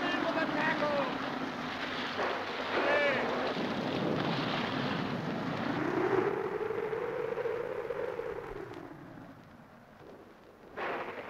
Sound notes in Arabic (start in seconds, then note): 4.3 صوت الرعد; 4.3 هدير الريح